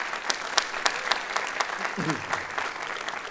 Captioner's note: applause